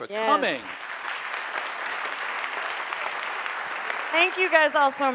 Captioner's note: audience applauding